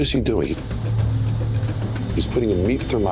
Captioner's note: sizzling